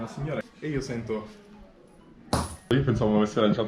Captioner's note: thunk